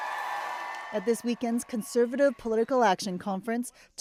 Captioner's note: cheers and Applause